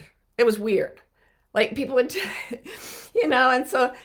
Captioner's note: chuckling